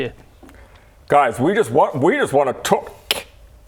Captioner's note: snap